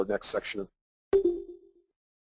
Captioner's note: digital beeping